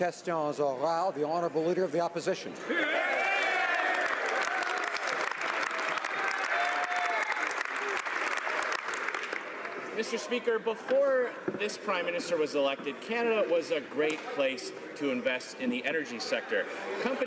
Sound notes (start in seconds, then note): 3.8 speaking French; 8.1 some Applause